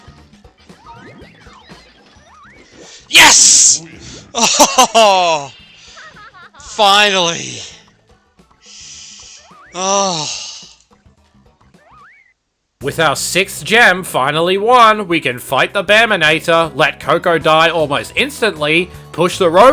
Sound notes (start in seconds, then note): 4.3 chuckles; 9.8 sigh of relief